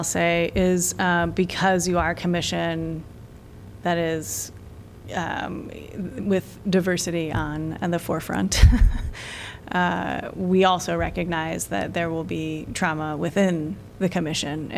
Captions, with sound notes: say is because you are a Commission that is with diversity on the forefront. [LAUGHTER] We also recognize that there will be trauma within the commission.